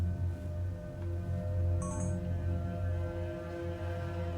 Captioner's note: camera beeps